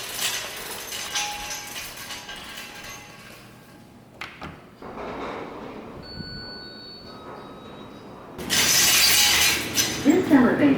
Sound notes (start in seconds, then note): 0.0 cart wheels turning; 6.2 elevator dings